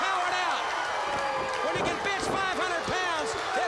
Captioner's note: crowd cheering